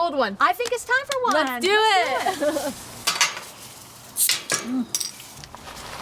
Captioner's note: laughing